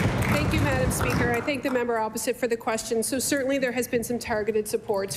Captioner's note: applause